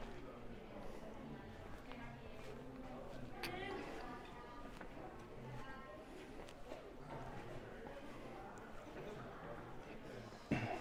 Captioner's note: background chatter